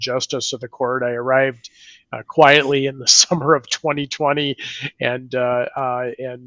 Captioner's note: laughs